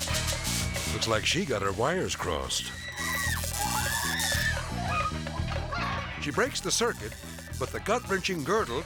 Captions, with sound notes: Looks like she got her wires crossed. (person screaming) (electricity buzzing) She breaks the circuit, but the gut-wrenching girdle